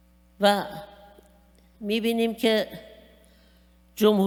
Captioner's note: speaking persian